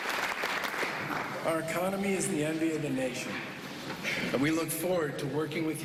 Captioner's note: applause